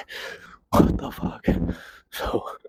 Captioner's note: chuckles